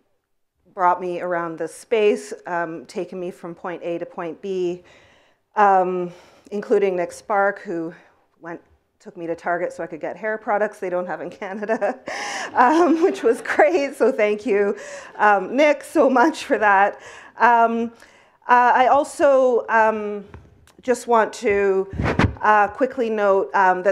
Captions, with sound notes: brought me around this space, taken me from point A to point B, including Nick Sparks who took me to Target so I could get hair products they don't have in Canada, (laughs) which was great, so thank you, Nick, so much for that. I also just want to quickly note